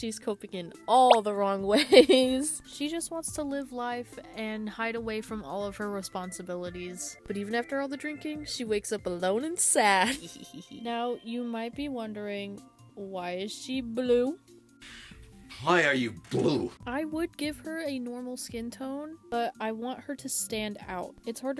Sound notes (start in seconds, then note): 9.6 little giggle